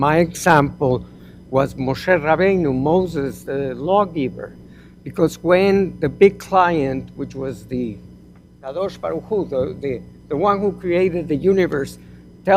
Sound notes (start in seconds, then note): 9.1 hebrew